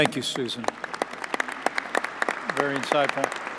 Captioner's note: applause